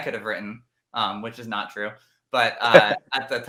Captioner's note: laughs